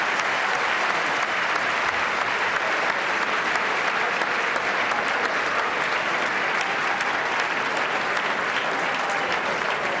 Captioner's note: applause; cheers and applause